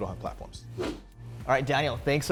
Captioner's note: logo swooshes in